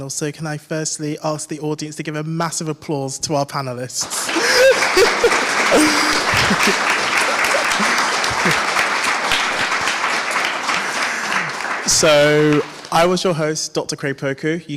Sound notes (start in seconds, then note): 4.0 audience applauds; 4.1 chuckles